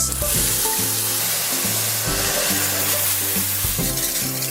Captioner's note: water running